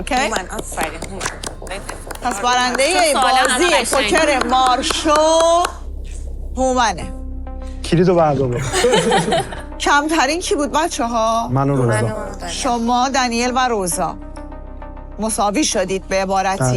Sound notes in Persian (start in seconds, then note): 8.5 خنده